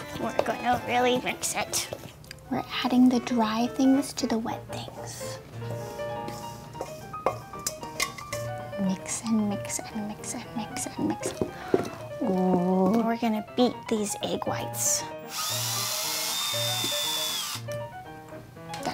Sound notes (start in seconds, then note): 5.2 bowl scraping; 15.2 hand mixer whirring